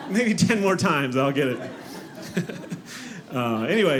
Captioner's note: audience laughing